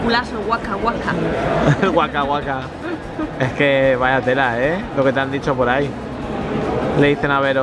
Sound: laughs

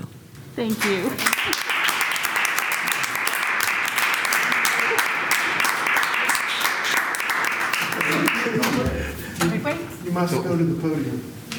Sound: applause

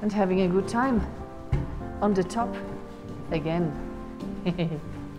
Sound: lauging

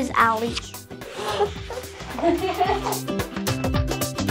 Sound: giggling

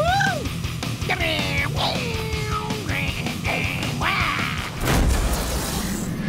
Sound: imitating guitar sounds

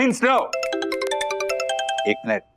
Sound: phone rings

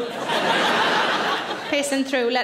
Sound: audience laughs

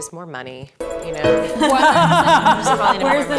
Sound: laughs

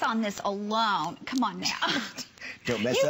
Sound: laughter

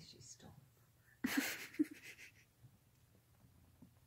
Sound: laughs

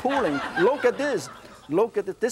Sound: audience laughs

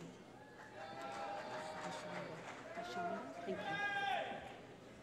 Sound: cheering

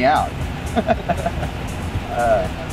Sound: both laugh

